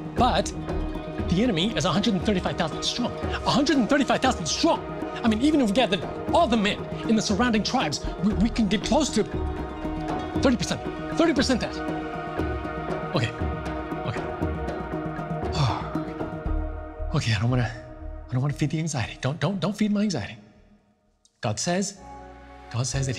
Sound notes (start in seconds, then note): 15.5 sigh